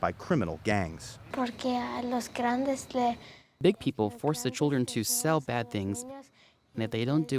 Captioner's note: through translator